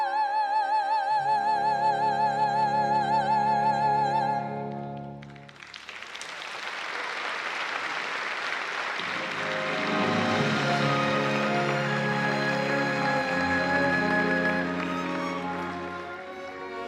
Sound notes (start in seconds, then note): 4.9 applause; 12.7 orchestral music playing